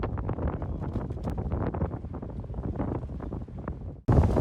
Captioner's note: wind blowing and lava sounds